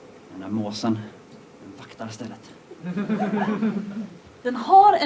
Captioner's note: laughter